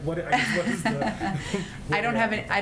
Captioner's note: laughter